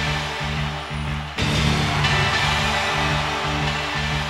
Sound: crowd cheers

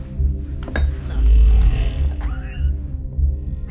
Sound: coughs

